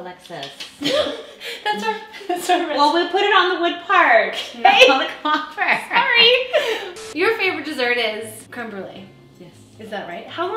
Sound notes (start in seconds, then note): 0.7 laughing; 6.5 both laughing